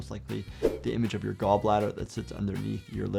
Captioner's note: screen whooshing